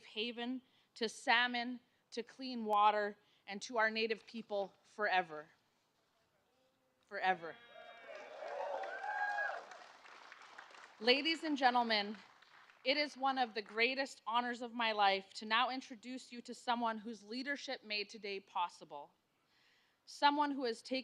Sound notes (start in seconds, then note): 13.4 applause